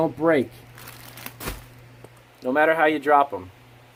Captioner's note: crinkling plastic